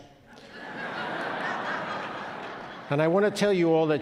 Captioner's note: audience laughing